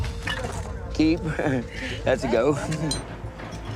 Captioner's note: laughs